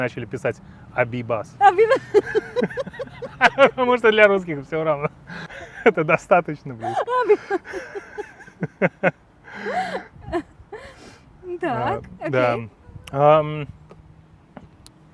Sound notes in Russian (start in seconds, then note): 1.6 оба смеются; 6.7 смеются